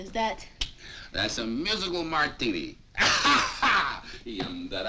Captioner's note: laughing